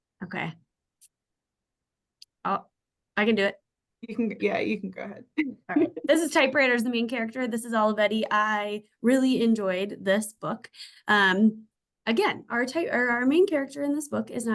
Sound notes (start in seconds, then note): 5.7 laughs